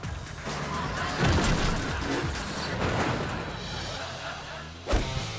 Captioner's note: audience laughing